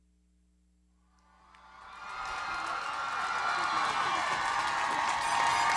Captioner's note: cheers and applause